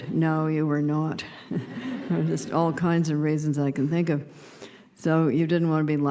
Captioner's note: laughter